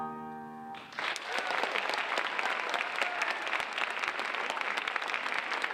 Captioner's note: audience applauding